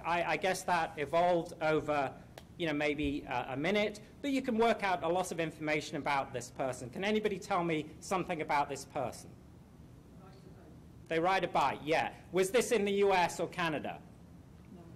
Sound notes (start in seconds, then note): 10.3 voiceover